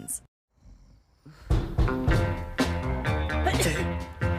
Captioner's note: door knocking; upbeat music